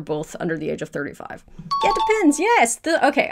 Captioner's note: question dings